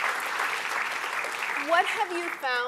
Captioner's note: applause